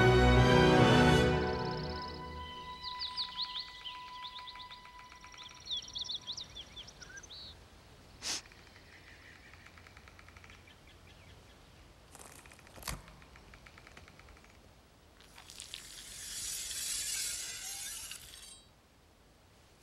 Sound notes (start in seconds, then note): 1.0 birds chirping; 8.2 sniffs